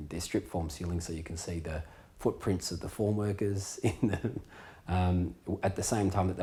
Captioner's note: chuckling